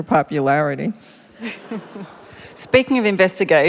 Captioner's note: laughter